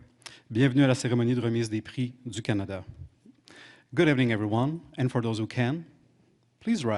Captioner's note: speaking French